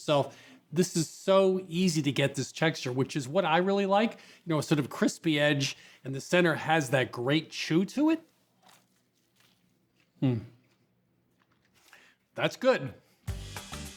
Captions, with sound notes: you make it yourself. This is so easy to get, this texture, which is what I really like. You know, a sort of crispy edge, and the center has that great chew to it. (crunches softly) Mm. That's good.